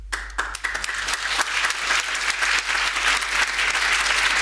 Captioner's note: audience applauding